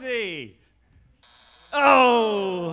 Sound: buzzer sounding

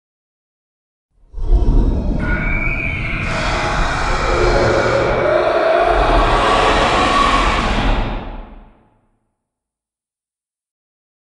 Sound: roar of a five-headed dragon

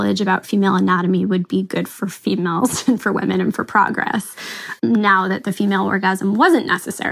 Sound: chuckles

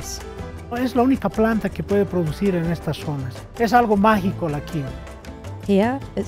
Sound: speaking in foreign language

